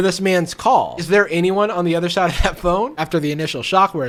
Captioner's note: laughs